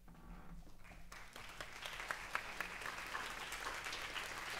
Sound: audience applauds

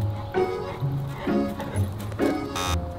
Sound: gentle music; Kobe panting; buzzer beeps

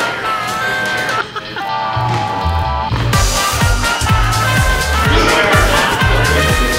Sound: crew member laughs; people chattering indistinct

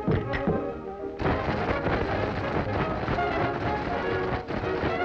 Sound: ice rattles

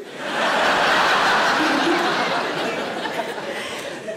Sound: audience laughs

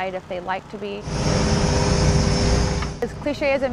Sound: machinery whirring

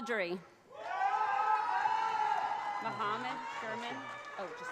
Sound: audience cheers

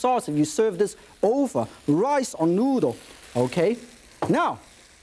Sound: none

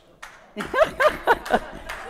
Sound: audience member applauding; audience laughing

